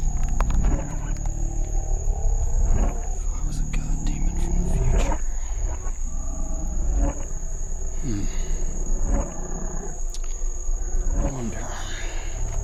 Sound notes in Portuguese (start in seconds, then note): 3.1 sussurrando para si mesmo